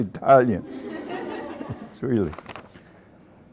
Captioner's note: laughter